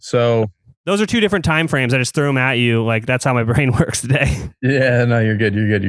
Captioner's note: laughs